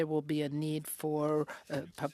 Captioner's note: speaking French